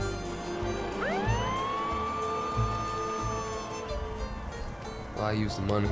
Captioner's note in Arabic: يعمل محرك سيارة الشرطة، صفارات الإنذار